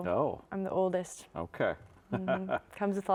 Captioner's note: chuckling